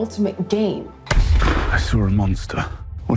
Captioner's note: gunshot